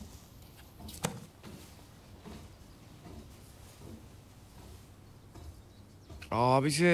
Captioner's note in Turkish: Ayak Sesi